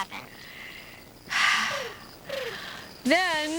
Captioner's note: sighs